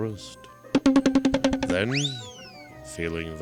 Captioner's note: cartoon scrambling noises